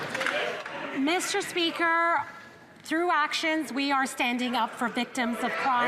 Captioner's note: some Applause